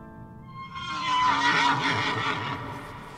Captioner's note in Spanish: Relincho